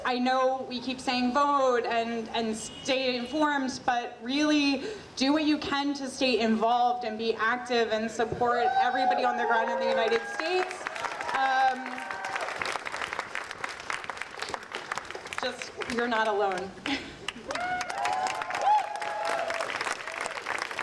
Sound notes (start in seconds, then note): 12.9 audience applauding; 17.9 audience applauding